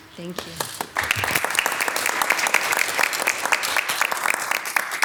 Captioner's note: audience applauding